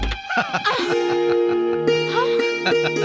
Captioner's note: laughing